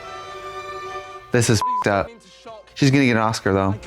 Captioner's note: beep